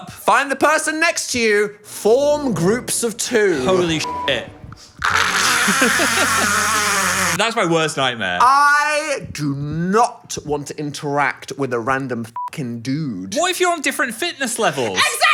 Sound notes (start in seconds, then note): 4.0 beep; 5.3 screaming; 5.4 laughs; 12.3 beep